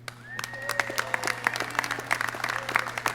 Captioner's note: clapping